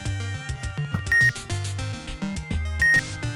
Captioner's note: slower X-ray beeping